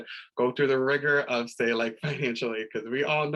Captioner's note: laughter